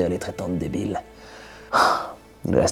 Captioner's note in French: soupir